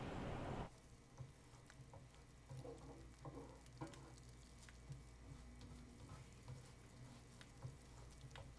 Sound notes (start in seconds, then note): 1.4 sizzling